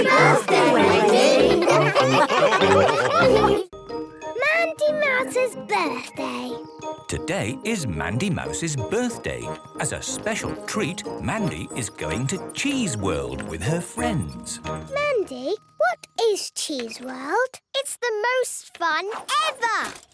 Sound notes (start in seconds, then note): 2.3 all laughing